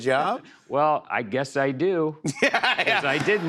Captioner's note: laughter